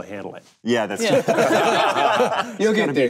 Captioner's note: group laughing